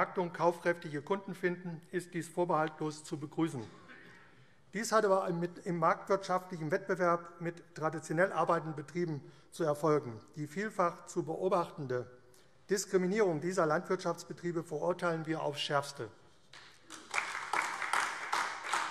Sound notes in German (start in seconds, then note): 16.5 Beifall AfD